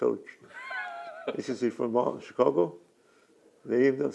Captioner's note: laughs